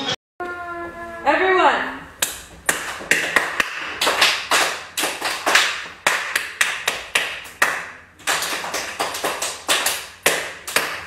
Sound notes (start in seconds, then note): 2.6 children clapping; 2.7 clapping; 5.9 clapping; 8.2 children clapping; 9.9 clapping